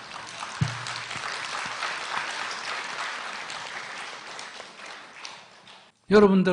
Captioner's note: audience Laughter/Applause